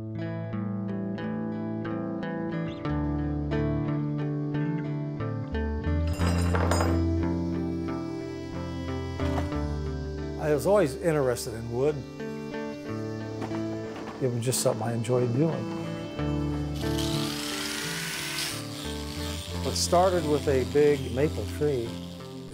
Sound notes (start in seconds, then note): 6.1 tools clanking; 16.4 grinder